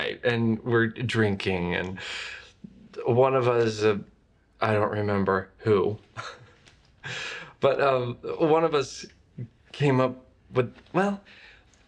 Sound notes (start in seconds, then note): 6.1 laughs